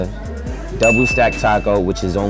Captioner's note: ding